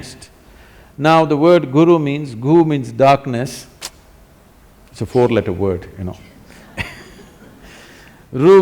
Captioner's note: laughs